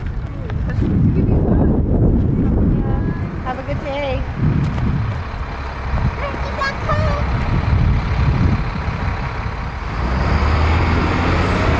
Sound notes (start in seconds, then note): 9.2 bus: roar